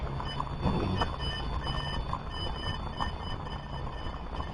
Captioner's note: machines buzzing